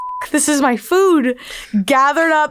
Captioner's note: beeping